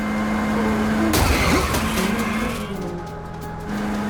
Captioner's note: car crashing